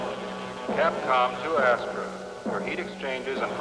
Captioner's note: man on PA